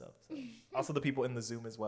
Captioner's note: laughs